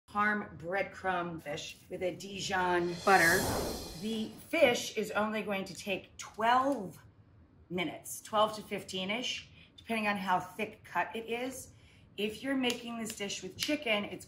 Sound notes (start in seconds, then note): 2.4 air whooshes